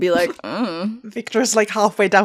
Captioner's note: I dunno noise